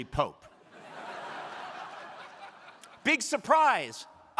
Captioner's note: crowd laughing